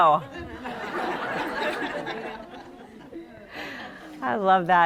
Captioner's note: laughter